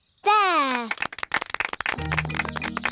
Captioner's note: applause